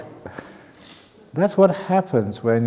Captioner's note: chuckle